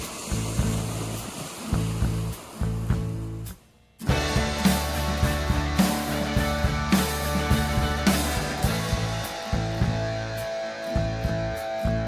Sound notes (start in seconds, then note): 2.2 waves crashing